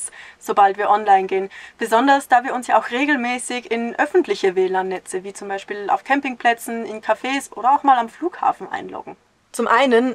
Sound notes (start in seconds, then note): none